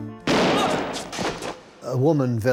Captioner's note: gunshot; thud